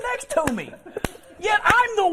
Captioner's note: laughter